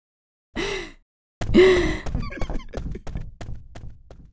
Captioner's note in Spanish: pasos; Coach se ríe